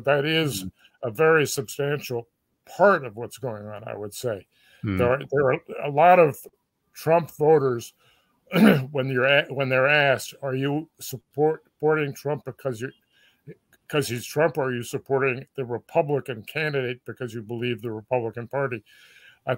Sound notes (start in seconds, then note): 8.5 cough